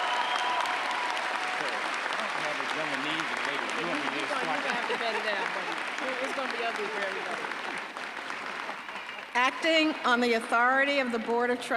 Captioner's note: applause